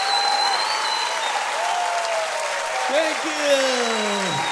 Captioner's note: applause